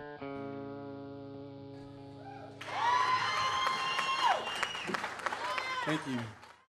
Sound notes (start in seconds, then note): 2.3 cheering